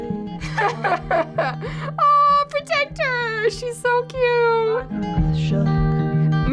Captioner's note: laughs